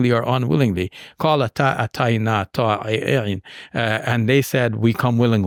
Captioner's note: speaking in Arabic